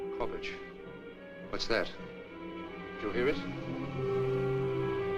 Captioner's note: moaning